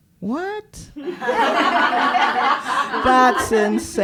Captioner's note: laughter